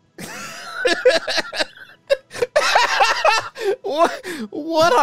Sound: laughs

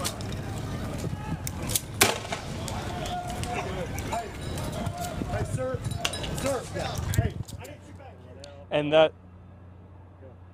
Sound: shots

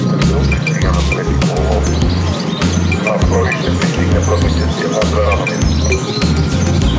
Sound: announcement sounds on a speaker

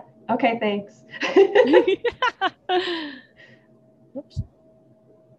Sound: both laughing

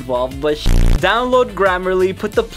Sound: beep

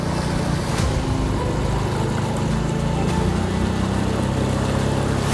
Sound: boat motor roaring

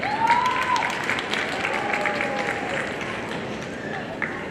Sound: audience applauding

